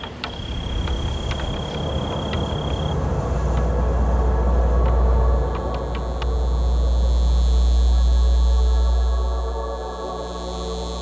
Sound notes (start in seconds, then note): 0.1 cars wooshing; 5.4 light buzzing